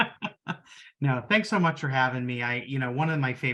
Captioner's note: laughing